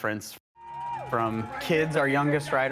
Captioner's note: cheering and cattle bells